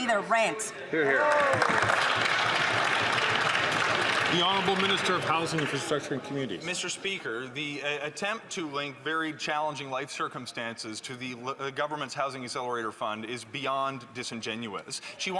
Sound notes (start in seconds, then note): 7.1 some Applause